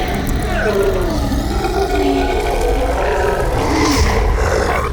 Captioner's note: growling